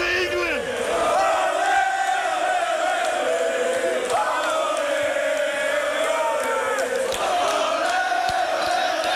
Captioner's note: crowd chanting Ole, Ole, Ole